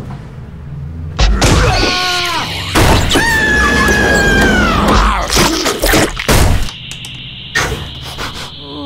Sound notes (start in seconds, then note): 2.4 crash!; 2.9 scream!; 5.8 pop!; 5.8 bang!; 6.2 wail